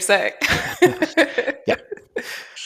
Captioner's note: laughter